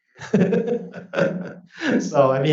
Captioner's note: laughs